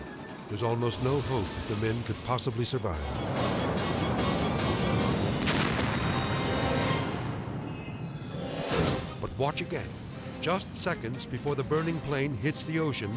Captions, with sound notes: There's almost no hope that the men could possibly survive. (jet crashing) But watch again. Just seconds before the burning plane hits the ocean,